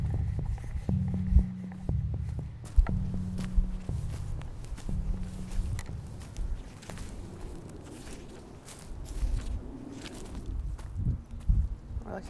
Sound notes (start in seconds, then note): 2.3 footsteps